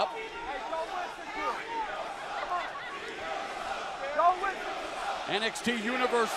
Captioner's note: crowd cheering